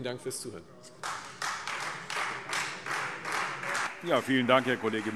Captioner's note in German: Anhaltender Beifall Freie Demokraten